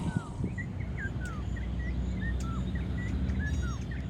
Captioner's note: bird song